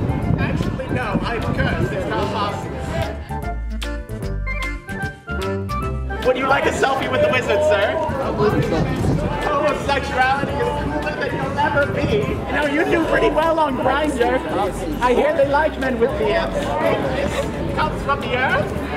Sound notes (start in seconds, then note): 9.7 shouting